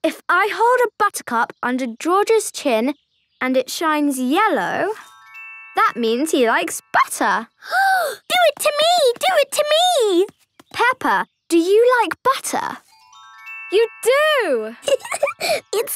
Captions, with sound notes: - If I hold a buttercup under George's chin and it shines yellow... ...that means he likes butter! (gasping) - Do it to me! Do it to me! - Peppa, do you like butter? You do! (giggling)